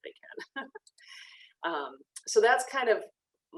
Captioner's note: laughs